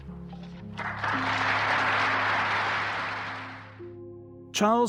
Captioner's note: audience applauding